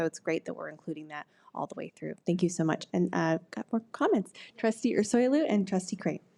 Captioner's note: none